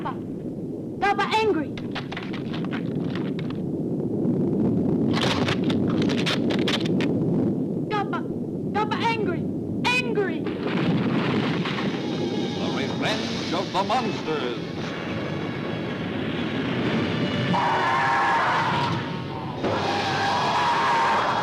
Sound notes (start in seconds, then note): 1.7 egg craking; 16.0 dramatic music; 19.5 monsters squealing